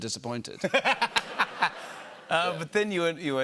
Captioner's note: laughter